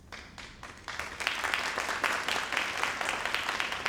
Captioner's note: crowd applauding